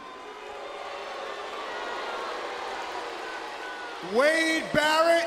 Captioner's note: crowd cheering